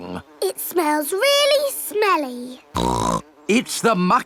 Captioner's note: snorts